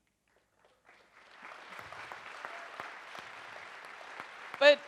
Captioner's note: audience applauds